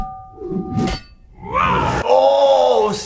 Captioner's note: smashing effect